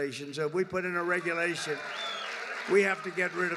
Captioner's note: applause